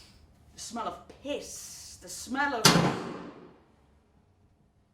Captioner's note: gunshot